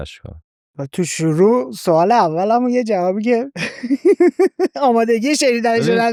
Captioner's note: laughs